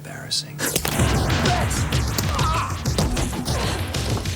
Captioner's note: groans; energetic music